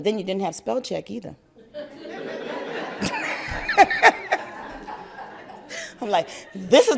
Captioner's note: laugther